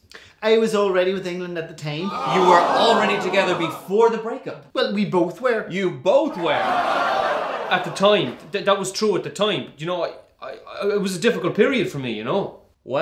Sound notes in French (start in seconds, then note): 2.0 public: hoo!; 6.2 public: HOOOO!